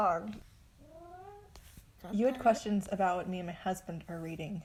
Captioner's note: meow